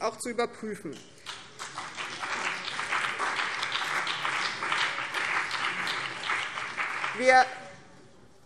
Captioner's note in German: Beifall BÜNDNIS 90/DIE GRÜNEN und vereinzelt CDU